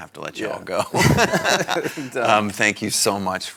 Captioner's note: both laughing